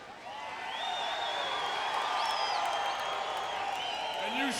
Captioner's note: audience cheering